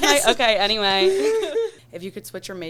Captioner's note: both laughing